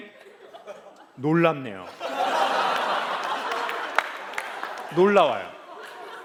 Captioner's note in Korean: 웃음